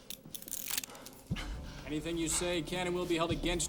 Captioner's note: breathing heavily